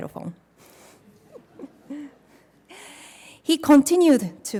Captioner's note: laughs